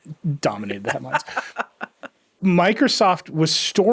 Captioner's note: laughing